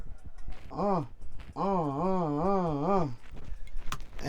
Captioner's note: uh, uh, uh, uh, uh